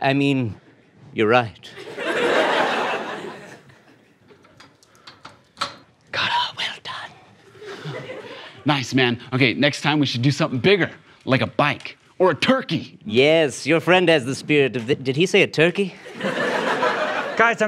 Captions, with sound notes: I mean, you're right. - [whispered] Got it! - Well done. - Nice, man, okay, next time we should do something bigger, like a bike, or a turkey. - Yes, your friend has the spirit of-- Did he say a turkey? [audience laughs]